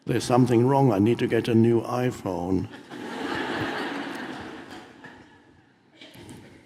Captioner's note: audience laughs